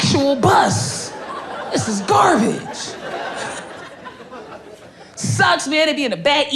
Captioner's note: crowd laughing